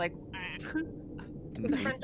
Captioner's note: Cornette laughs